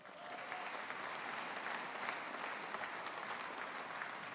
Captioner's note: audience applauding